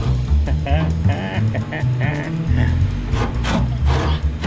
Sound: maniacal laughter

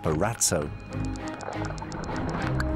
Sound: whales clicking

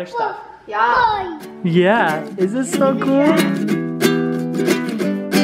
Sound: babbles; upbeat music

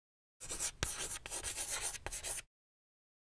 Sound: chalk scratching

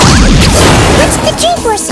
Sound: crashes

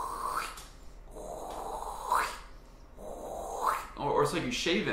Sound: swiping sound; swiping sound again

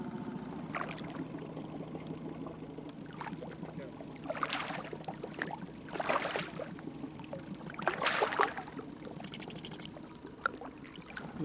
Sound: fish splashing

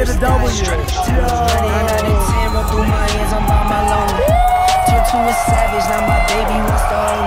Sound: screaming

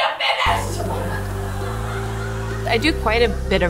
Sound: audience laughs

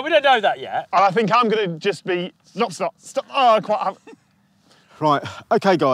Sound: stammers

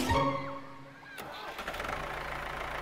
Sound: motor whirring

